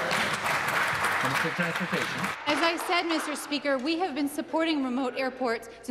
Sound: some Applause

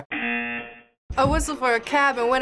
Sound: buzzer rings

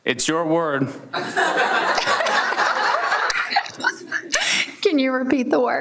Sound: everyone laughs

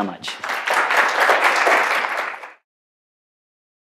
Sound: applause

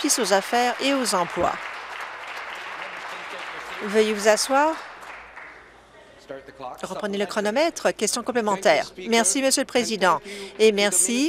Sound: applause

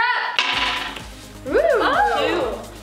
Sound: banging

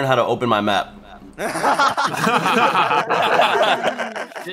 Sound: laughs

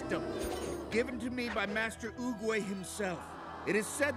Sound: crowd aahing

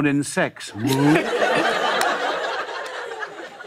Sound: laughter

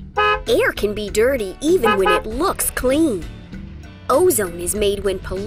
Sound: horn beep; horn beeps

